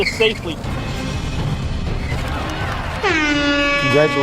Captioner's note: dramatic music; audience applauds